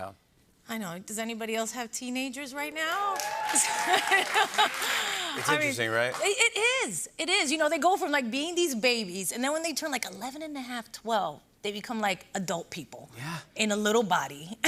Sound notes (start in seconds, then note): 3.0 cheers and applause; 3.6 laughs